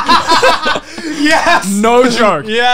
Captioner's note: laughs